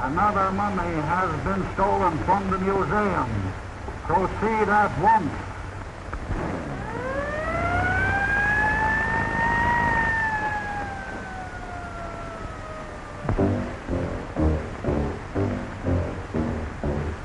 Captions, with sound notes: Another mummy has been stolen from the museum. Proceed at once. (siren wailing) (suspenseful music)